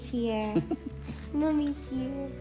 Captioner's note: laughing